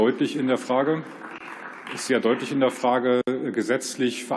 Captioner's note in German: Beifall